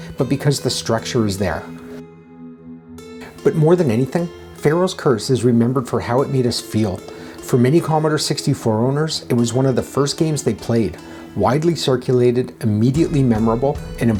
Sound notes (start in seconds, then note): none